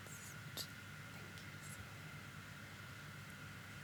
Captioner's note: faintly speaking